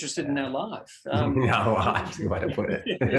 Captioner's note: both laugh